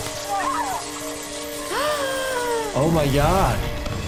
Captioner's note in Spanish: zumbido eléctrico; chicas gimiendo; jadea